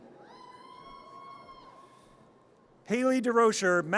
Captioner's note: audience cheers